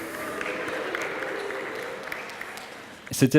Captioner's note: applause